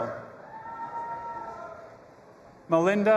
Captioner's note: audience applauding and cheering